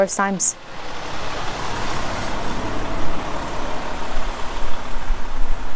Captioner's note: vehicle engine rumbling